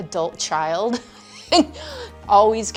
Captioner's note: chuckles